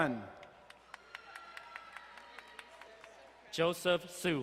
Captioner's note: crowd cheering and applauding